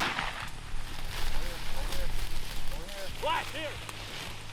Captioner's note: gun firing